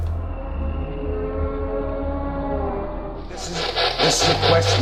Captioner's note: muffled groaning; loud static